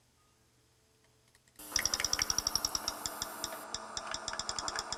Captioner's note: high-pitched rapid clicking sound; clicking varies in speed